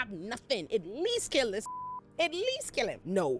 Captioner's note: beep